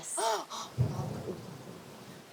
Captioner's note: rumbles